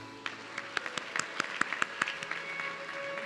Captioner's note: audience clapping; classical music playing